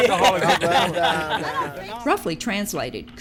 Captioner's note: laughing